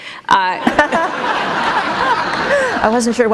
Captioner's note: laughter